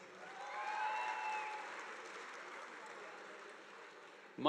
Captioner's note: audience applauding